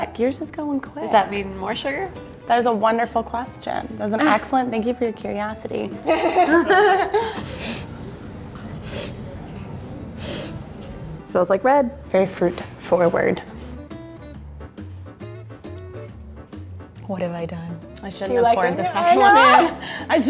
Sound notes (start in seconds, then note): 6.0 laughing; 7.2 sniffing; 13.9 light upbeat music